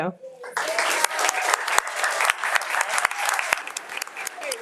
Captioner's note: audience applauding